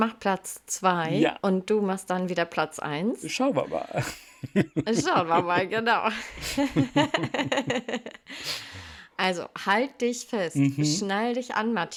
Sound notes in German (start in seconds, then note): 5.5 schnauben; 8.3 gelächter